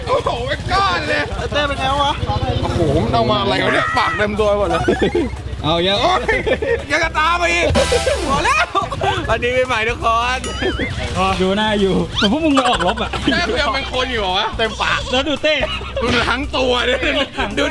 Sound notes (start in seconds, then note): 4.9 chuckles